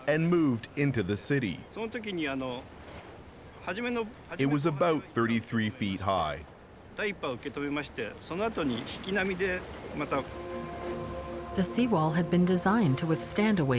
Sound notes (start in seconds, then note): 11.5 speaking Japanese